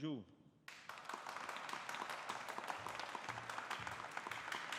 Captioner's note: audience applauding